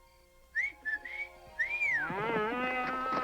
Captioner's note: Leonardo whistles; Gitano bellows and kicks